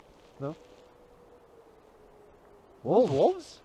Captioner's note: wolves howl again